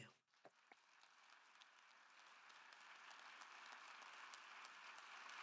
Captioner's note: attendees applauding